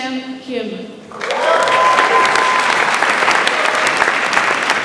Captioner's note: audience applauds